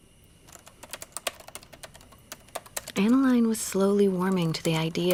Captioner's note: typing